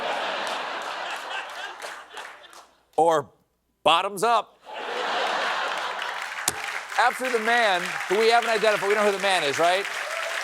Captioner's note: applause